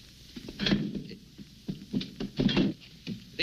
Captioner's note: chair scraping